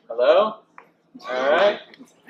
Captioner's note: child cheers